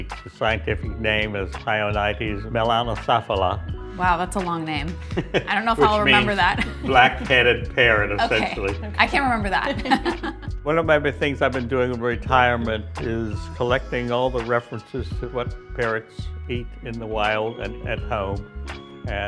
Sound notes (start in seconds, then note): 9.7 laughing; 10.2 laugh